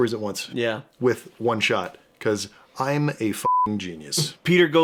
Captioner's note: beeping